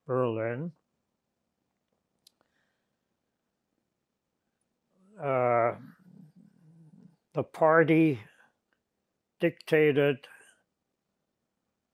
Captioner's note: pauses 6 seconds